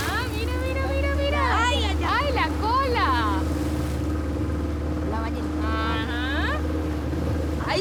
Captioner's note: speaking in foreign language